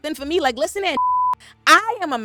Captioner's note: beep